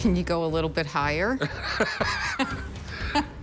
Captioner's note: laughter